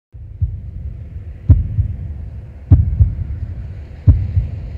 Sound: wind blowing; heart beating

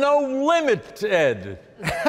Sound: audience laughing

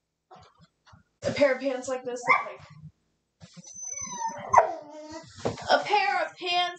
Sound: dog noises; whines; barks

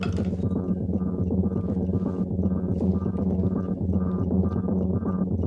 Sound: clock ticks rhythmically

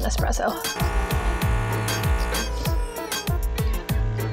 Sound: machine whirs

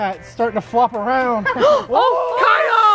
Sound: gasps

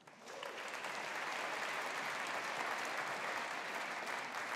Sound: audience applauding

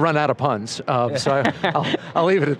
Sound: laughter

